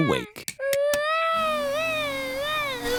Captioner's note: vacuum cleaner whirring